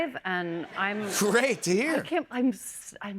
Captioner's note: laughter